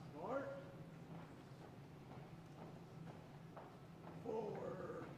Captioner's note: feet tapping